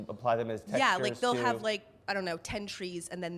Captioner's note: voiceover